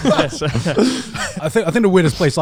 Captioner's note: all laughing